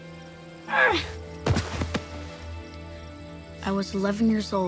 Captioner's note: thuds